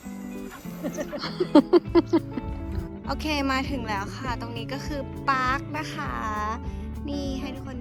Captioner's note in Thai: เสียงหัวเราะ